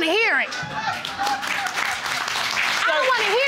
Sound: audience clapping

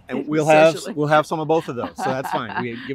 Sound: laughter

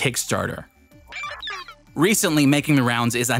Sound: digital sounds

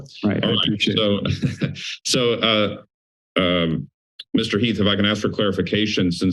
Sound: laughter

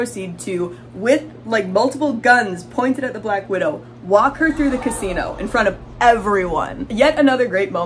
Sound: crowd gasping

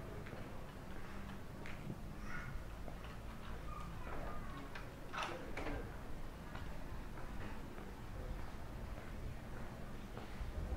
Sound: walking continues

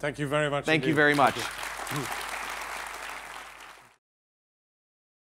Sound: applause

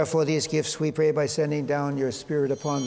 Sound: chimes ringing

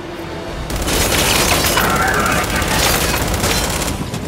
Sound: gunshots

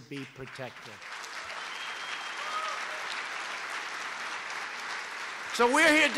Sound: applause

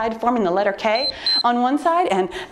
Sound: timer beeps

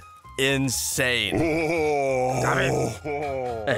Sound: groans

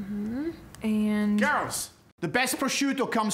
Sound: with Scottish accent

